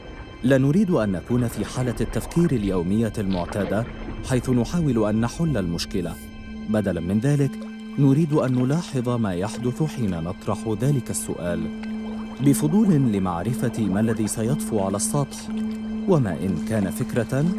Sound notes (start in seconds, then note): 14.0 bubbling